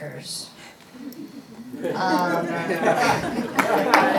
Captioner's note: laughing